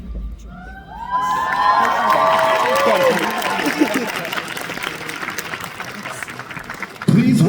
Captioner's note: applause